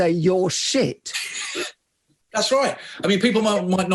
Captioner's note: laughs